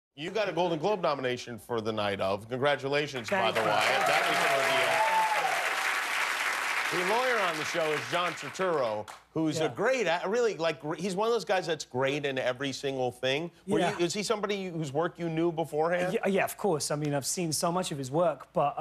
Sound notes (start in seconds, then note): 5.2 cheers and applause